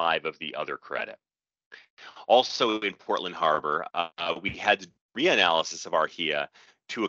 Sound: audio skips forward

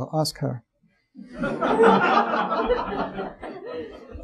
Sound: audience laughing

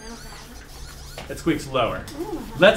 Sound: squeak descends

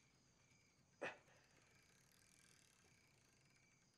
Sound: labored breathing

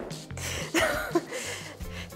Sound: teehee

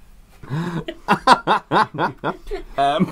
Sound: everyone Laughing

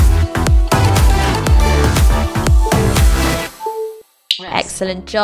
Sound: upbeat music; machine beeping

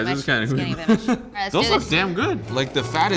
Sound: laughter

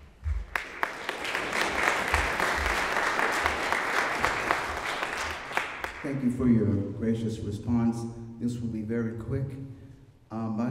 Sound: applause

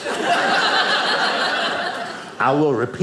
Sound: audience laughing

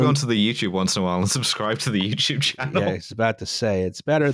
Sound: laughs

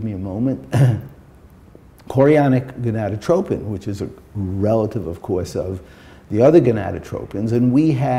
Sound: clears throat

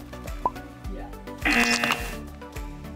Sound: buzzer

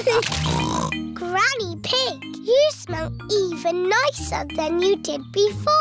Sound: snorts

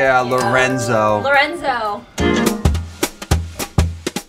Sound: bell dinging

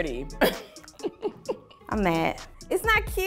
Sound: laughs

